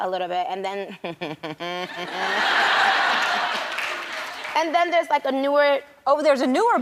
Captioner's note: risas